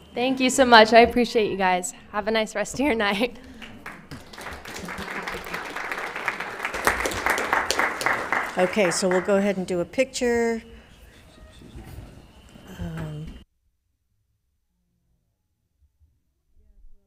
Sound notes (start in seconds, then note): 3.4 applauds